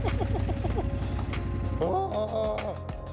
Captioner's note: nervous laughter